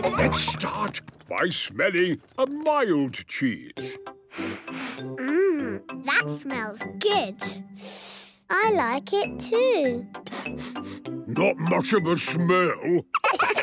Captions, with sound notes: Let's start by smelling a mild cheese. - (sniffs) Mmm... That smells good. - (sniffs) I like it too! - (sniffing) Not much of a smell.